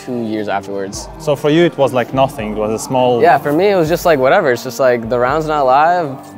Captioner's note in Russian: Голос за кадром